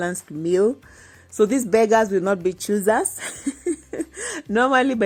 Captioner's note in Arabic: يضحك